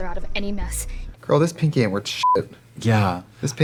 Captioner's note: beeping